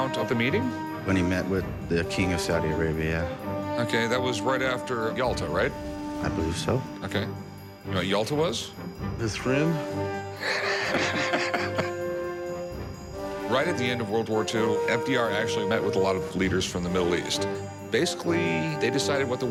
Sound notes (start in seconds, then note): 10.3 laughs